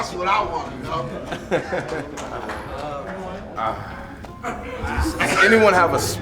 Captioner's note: university students chuckle nervously